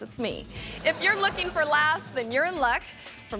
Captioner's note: audience laughing